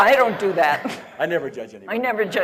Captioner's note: laughter